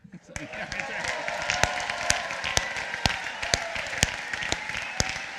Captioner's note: applause